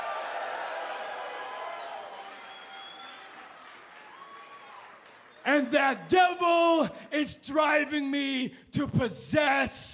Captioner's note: cheers and applause